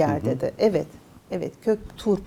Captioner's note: laughs